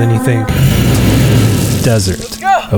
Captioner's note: engine purring; dirt rustling